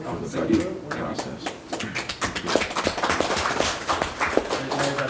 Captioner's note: audience applauds